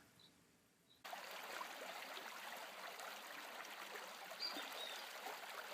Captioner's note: water trickling